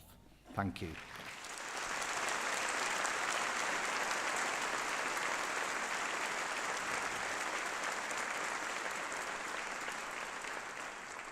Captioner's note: applause